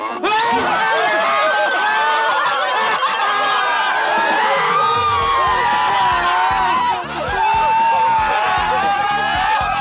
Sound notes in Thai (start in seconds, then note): 1.7 เสียงร้อง